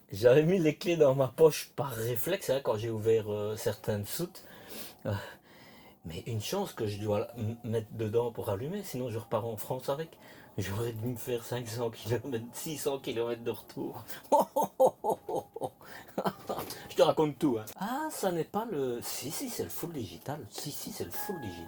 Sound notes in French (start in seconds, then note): 14.1 rires